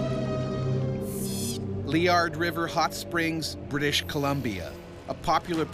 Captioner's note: voiceover